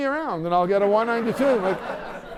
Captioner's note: laughter